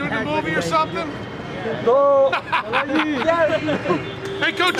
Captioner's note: non-english speech